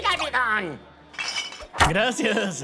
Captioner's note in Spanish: botellas sonando